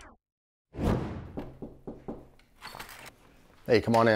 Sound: air whooshing

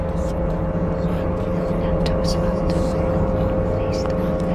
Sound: intense Celtic whispers

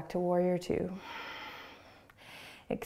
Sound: exhaling

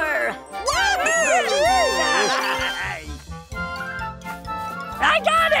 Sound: cheering

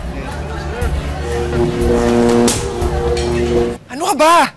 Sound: buzzing

